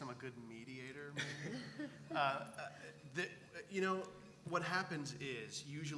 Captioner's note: laugh